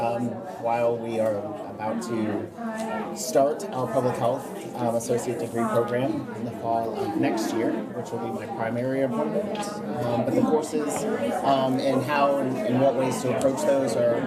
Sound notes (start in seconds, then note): 0.0 random chatter; 5.7 background chatter